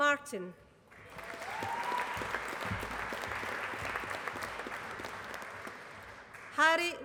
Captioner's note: applause